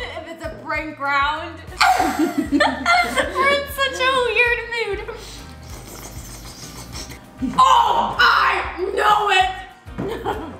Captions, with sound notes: If it's a prank round. (laughs) We're in such a weird mood. (flicks tongue on pretzel) Oh! I know it!